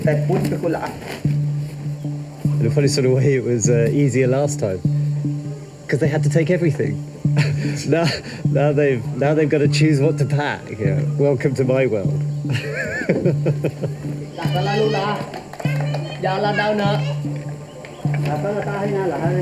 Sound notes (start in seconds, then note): 0.2 speaking in foreign language; 12.8 laughs; 14.9 speaking in foreign language